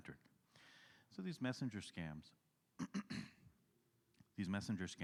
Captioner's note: clears throat